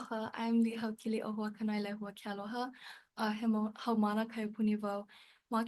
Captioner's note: speaks Hawaiian